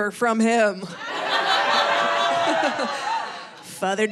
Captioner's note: audience laughing